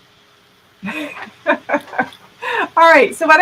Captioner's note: laughing